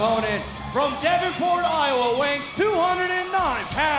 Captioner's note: crowd cheering